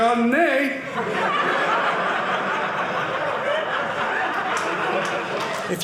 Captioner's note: audience laughing